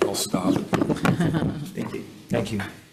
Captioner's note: laughs